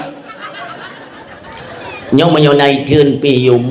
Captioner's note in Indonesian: tertawa